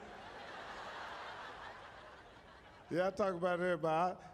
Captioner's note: audience laughing